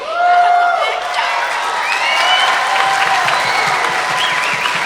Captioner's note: audience cheering